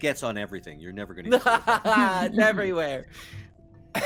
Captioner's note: laughs